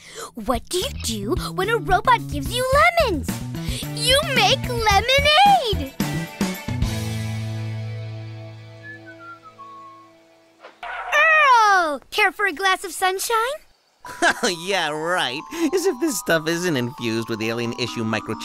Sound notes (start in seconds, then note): 8.7 whistling; 14.0 scoffing